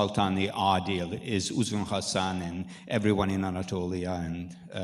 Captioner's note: speaking in foreign language